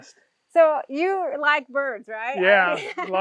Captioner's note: laughs